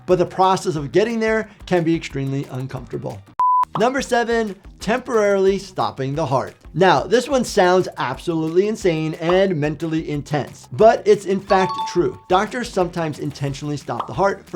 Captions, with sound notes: but the process of getting there can be extremely uncomfortable. (beep) Number seven, temporarily stopping the heart. Now, this one sounds absolutely insane and mentally intense, but it's in fact true. (bell dinging) Doctors sometimes intentionally stop the heart